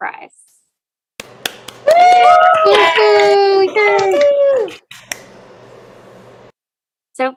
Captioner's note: applause